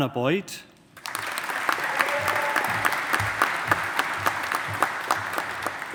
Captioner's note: audience applauding